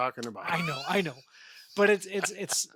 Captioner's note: laughing